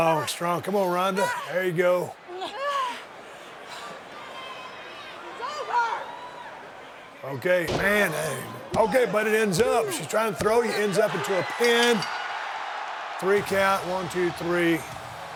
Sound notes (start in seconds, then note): 2.4 Ronda grunting; 11.9 bell ringing